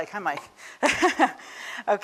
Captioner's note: chuckles